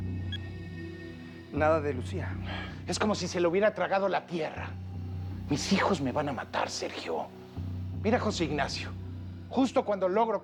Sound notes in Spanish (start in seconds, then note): none